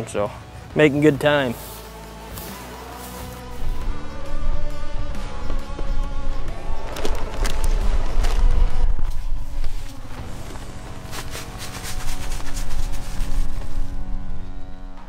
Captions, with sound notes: So making good time. (upbeat music) (gunny bag crinkling)